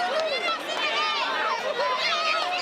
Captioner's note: crowd chatter